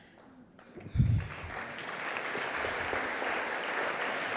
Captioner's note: applause